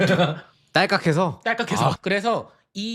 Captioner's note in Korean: 웃음